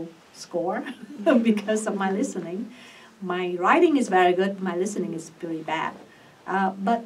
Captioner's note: laughs